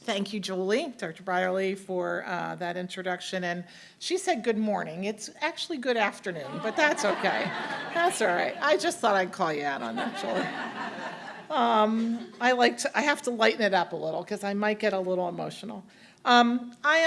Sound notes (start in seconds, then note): 11.3 audience laughing